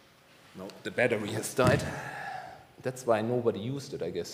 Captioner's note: sighing